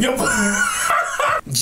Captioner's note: laughs